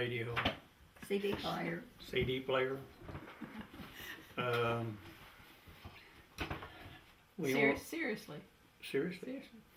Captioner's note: laughter